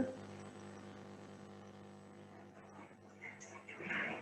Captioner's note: electronic buzzing